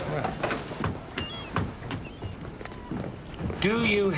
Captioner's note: seagulls calling